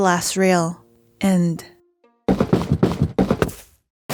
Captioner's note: falling down staircase; crashing